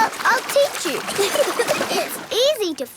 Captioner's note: giggling